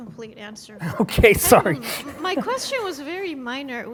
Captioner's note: laughs